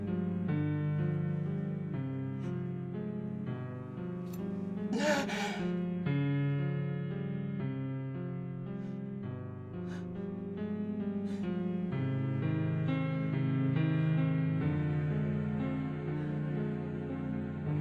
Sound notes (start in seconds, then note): 4.9 gasping